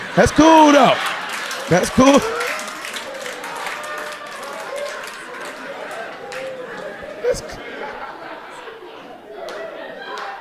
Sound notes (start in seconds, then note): 2.4 audience clapping